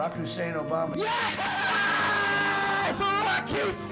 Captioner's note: cash register dings